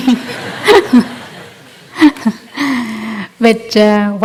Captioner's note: laughter